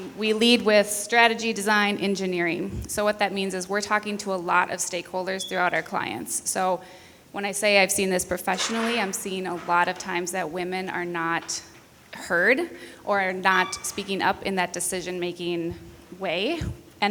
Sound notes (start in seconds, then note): none